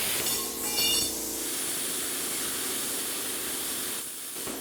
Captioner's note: sparks hissing